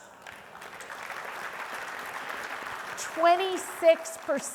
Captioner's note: audience applauding